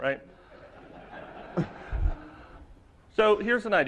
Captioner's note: laughter